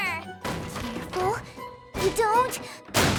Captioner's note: clatter!